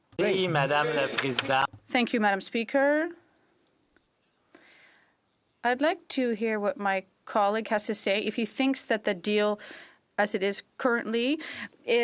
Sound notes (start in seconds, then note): 5.4 speaking French